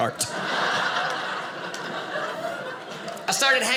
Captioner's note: audience laughing